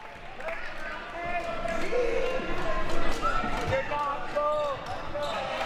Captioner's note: audience chattering and yelling